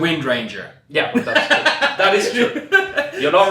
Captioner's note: laughs